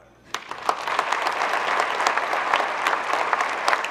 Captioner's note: group clapping